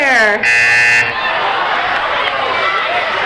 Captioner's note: buzzing